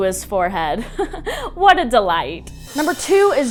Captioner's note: chuckles